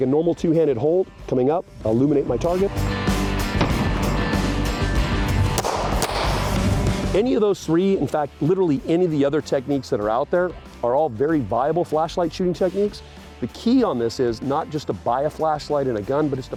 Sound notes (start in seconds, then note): 3.5 rock music; 5.5 gun shots